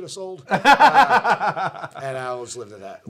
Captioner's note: laughing